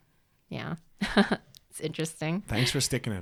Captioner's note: laughs